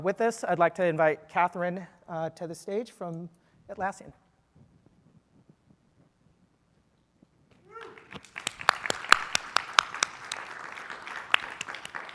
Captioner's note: applause